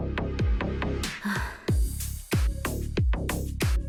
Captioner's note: sigh